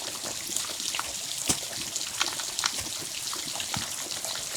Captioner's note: stream running